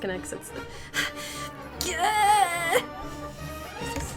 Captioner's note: constipated wheezing